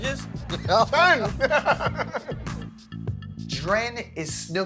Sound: laughter

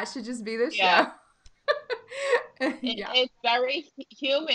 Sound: laughing

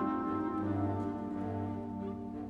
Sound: none

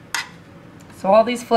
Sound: clipping sounds

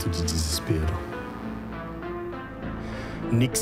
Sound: buzz from television static

